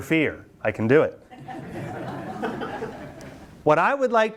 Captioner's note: students laugh